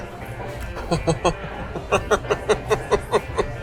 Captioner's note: chuckles